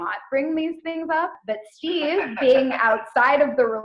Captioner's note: laughing over the phone